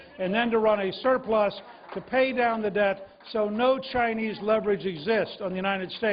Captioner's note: cheers and applause